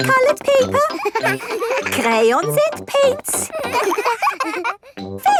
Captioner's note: all laughing